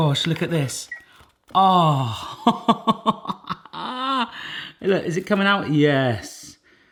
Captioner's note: laughs